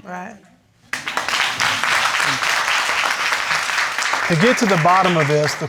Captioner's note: applause